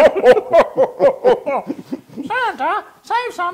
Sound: laugh

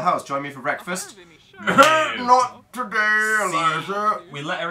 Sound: coughs

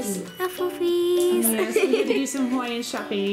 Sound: laughs

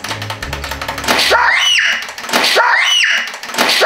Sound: screaming

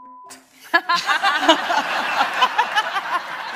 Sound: laughter

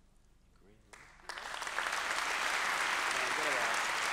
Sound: applause

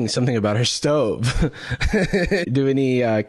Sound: laughs

